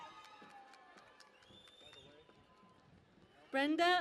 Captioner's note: cheering and Applause